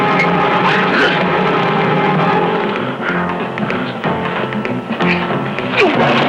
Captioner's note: dramatic music; crying out